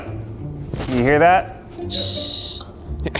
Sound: propane hisses

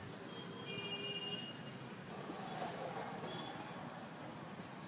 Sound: vehicle hooting

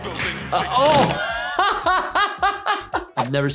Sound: laughs

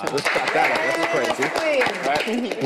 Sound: group applauds

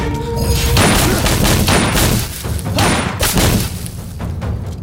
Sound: gunshot

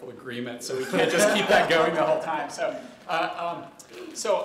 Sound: laughter

